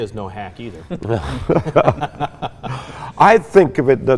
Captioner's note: laughing; laughs